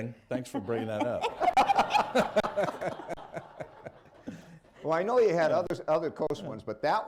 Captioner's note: laughter